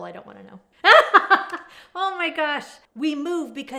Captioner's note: laughs